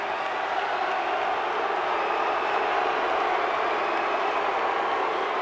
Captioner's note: audience cheering and clapping